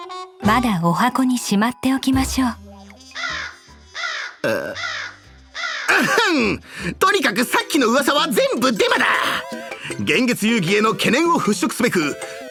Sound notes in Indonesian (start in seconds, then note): 5.9 Ehem